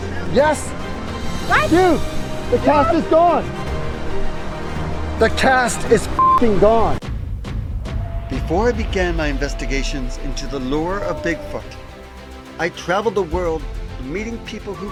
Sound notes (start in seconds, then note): 3.6 bright music; 6.2 beep; 7.2 dramatic music